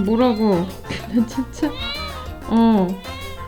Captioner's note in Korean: 웃음